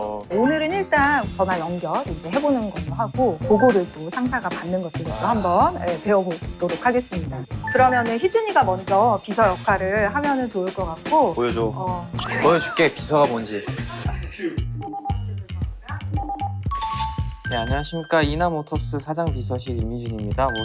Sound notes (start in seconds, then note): 16.2 ring ring